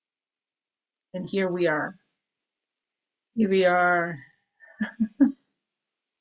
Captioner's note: chuckles